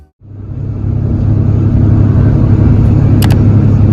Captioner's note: bus Engine White Sound; clicking & Typing